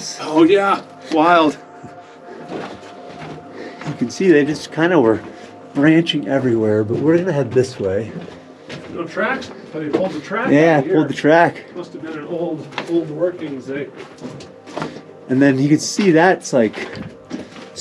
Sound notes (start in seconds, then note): 1.5 soft music; 8.2 footsteps tapping; 13.8 footsteps tapping